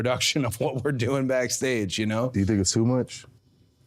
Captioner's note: laughs